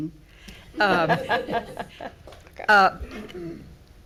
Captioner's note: everyone chuckling